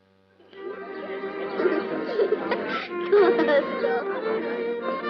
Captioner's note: laughter